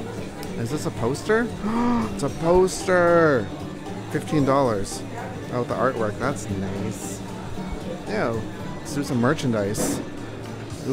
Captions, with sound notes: Is this a poster? *gasp* It's a poster! $15. Oh, the artwork. That's nice. Let's do some merchandise.